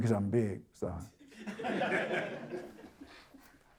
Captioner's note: audience Chuckles